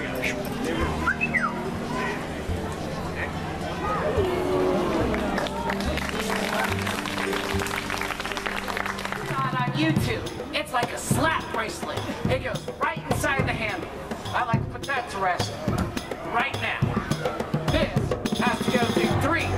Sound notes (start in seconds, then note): 1.0 whistles; 3.0 audience Ooohs; 4.2 audience Applauds